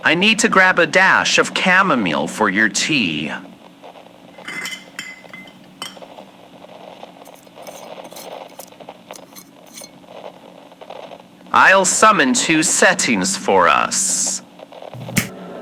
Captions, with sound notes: I need to grab a dash of chamomile for your tea. (rummages through bottles, unscrews lid fx) I'll summon two settings for us. (snap fx)